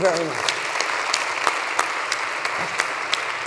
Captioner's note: applause